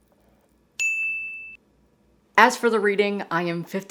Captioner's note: ding